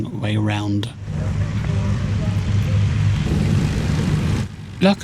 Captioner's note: aircraft engine